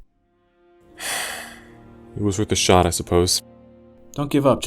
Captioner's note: sighs